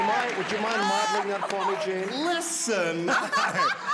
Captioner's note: laughter